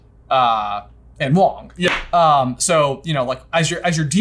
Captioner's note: claps